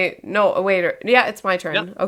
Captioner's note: laughs